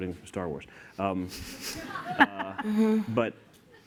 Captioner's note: laughter